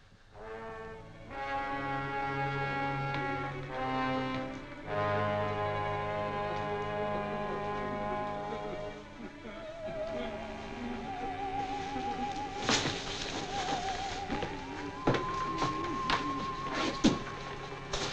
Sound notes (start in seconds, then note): 0.1 ominous music; 7.5 Larry whimpering